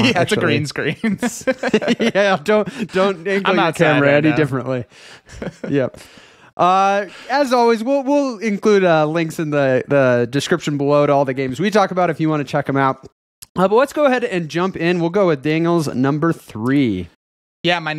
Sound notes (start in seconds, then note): 1.0 laughter